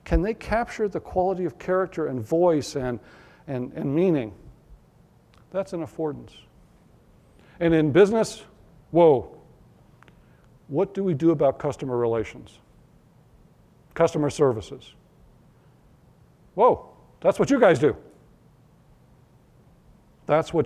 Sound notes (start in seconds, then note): none